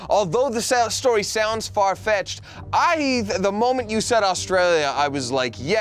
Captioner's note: none